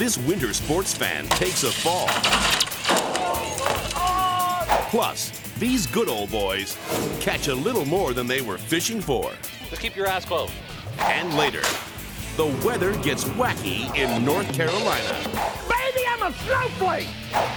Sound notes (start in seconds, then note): 1.0 metal clanking; 3.3 body thumps; 3.3 man groans; 11.6 fist thuds